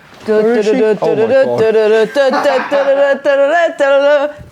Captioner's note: mimicking trumpets